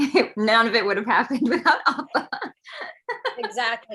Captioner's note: laughs